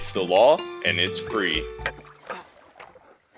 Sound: tired grunting

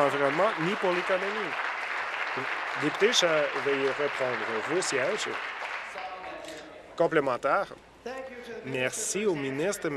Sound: applause

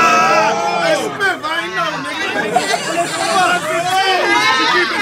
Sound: audience chatters

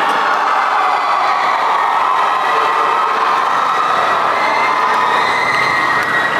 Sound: applause

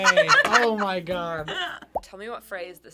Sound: both laugh

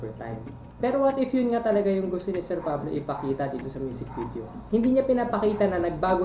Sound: bork bork bork bork bork bork bork bork

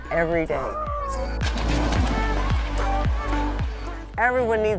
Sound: water splashing

